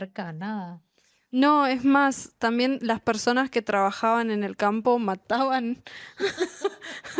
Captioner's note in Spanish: risas